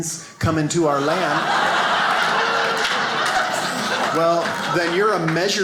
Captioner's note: audience laughs